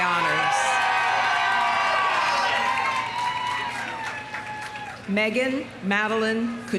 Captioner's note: audience cheering; audience applauding